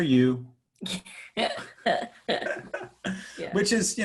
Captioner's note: laughing